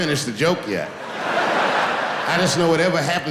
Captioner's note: laughing